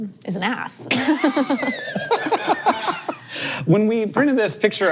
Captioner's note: all laughing